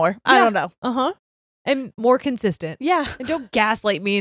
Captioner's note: chuckles